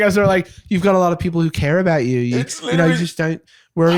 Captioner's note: sighs